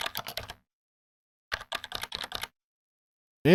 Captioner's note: typing